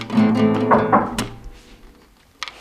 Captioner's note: door knocking